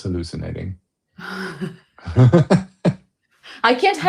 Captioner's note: laughter